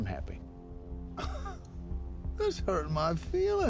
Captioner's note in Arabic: يضحك; لكنة اسكتلندية